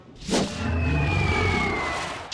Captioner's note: frightened growl